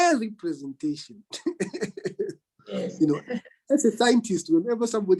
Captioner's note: laughs